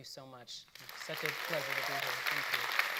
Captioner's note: audience applauding